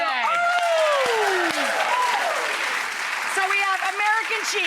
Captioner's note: applause